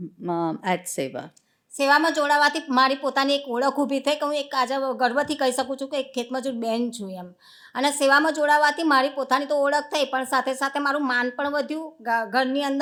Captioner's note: speaking gujarati